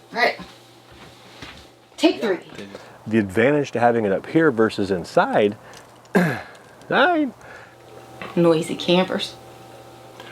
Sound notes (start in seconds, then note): 6.1 clears throat; 7.1 squeals